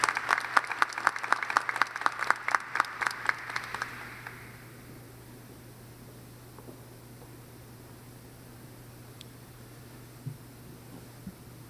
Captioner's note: applause